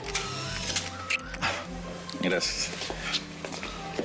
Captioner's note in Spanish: Sonido del obturador